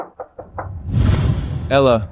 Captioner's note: knocking